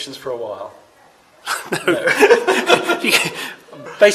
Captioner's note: laughter